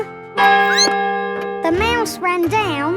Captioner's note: squeaks; clock chimes